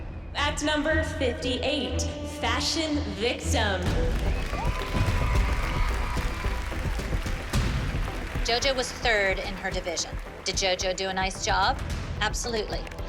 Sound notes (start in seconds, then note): 4.0 cheering, applause